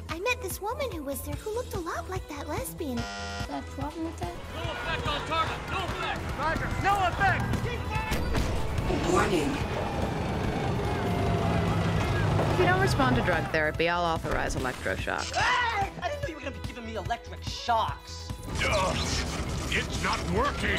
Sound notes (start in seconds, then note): 3.0 bzzzt